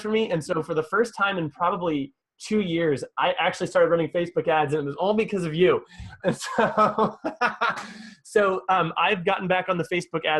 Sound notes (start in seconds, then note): 6.0 laughing